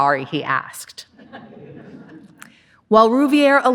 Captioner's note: audience laughing